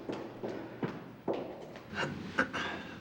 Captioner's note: clears throat